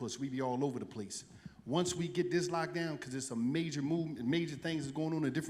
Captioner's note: none